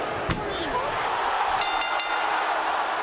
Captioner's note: applause